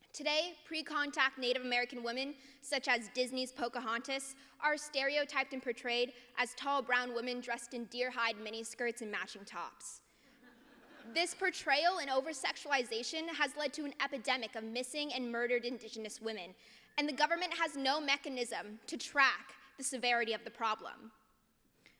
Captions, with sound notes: Today, pre-contact Native American women such as Disney’s Pocahontas are stereotyped and portrayed as tall brown women dressed in deer hide mini skirts and matching tops. [LAUGHTER] This portrayal and over-sexualization has led to an epidemic of missing and murdered Indigenous women, and the government has no mechanism to track the severity of the problem.